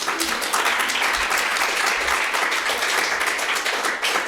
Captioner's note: audience clapping